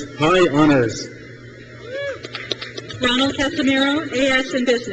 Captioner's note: crowd cheers